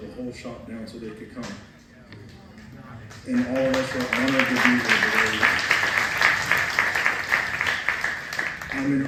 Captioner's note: applause